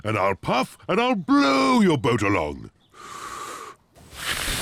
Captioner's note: inhales, blows